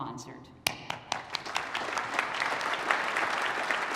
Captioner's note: applause